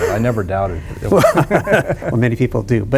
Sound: chuckles

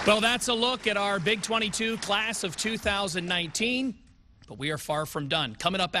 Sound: applause

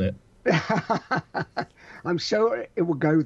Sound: laughs

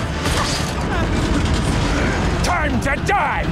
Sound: Bullet Bills fire; clattering; grunting

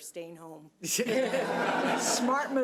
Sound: audience laughs

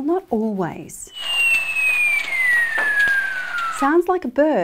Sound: seal whistling

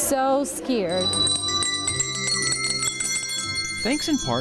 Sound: bells ringing

